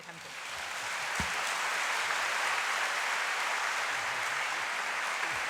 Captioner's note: applause